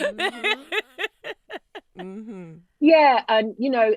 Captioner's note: laughing